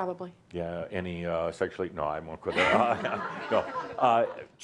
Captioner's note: laughter